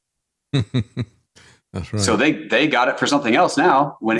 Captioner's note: laughing